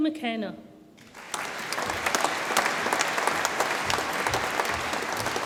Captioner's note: audience applauds